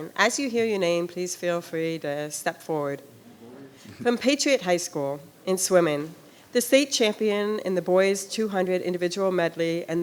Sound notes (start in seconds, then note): none